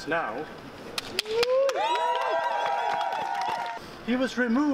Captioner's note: applause